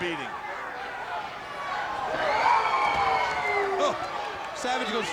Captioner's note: crowd yelling